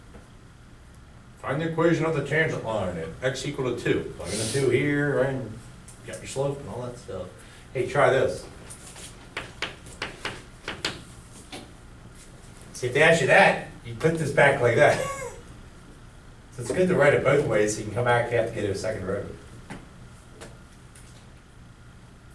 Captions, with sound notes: Find the equation of the tangent line and x equal to two, plug in the two here right and you got your slope and all that stuff. Hey try this. (chalk clicking on board) See if they ask you that, you put this back like that (laughs). So it's good to write it both ways so you can come back if you have to get a second derivative.